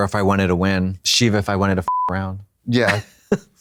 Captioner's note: beep; Katya hee-hees